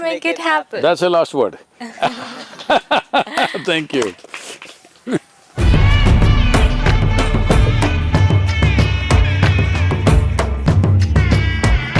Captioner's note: laughter/Applause